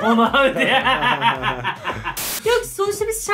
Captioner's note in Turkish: Gülüyorlar